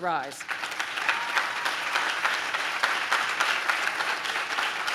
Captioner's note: audience claps